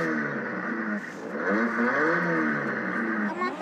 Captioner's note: engine revs